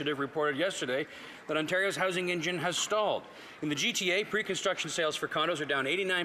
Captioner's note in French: voix de l'interprète